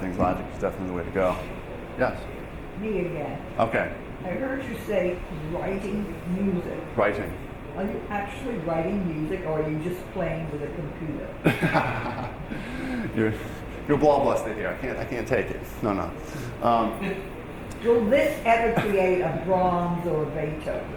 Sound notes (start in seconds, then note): 11.4 laughing